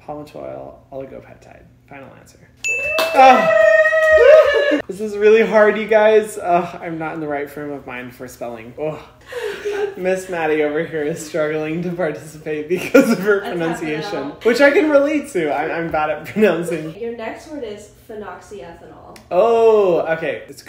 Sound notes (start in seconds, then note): 2.6 ding; 2.8 cheering and clapping